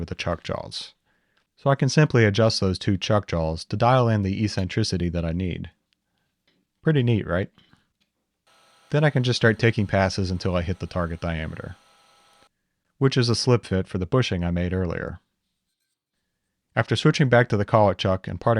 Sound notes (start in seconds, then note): 8.5 mill whirring